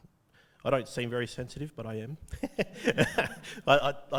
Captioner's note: laughs